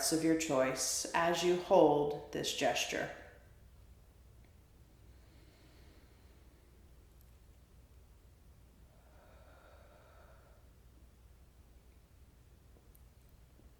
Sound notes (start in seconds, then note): 5.0 deep breathing